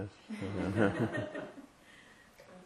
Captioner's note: laughter